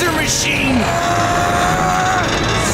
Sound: grunting

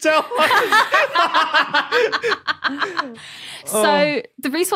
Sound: group laughing

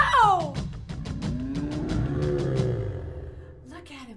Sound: bear growls; drums stop

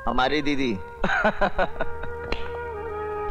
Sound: laughs

